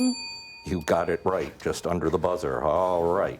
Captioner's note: bell ringing